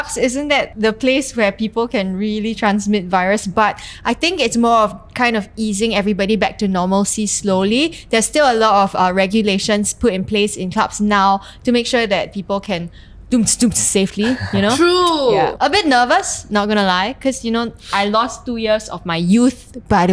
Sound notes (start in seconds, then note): 12.9 clubbing sound